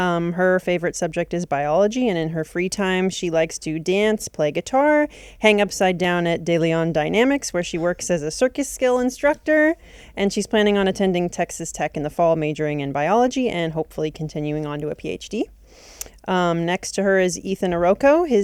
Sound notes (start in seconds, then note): none